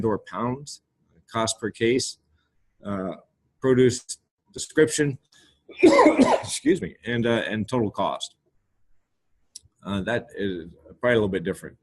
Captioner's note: coughs